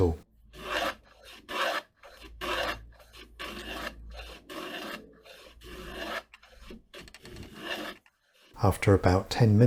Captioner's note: plane tool noises